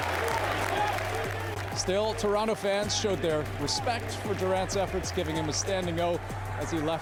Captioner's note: cheers and applause